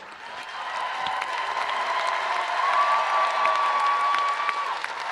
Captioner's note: audience applauding and cheering